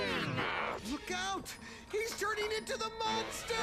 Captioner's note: deep voice